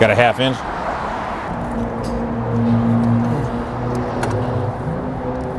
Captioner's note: traffic goes